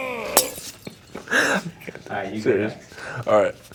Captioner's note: laughing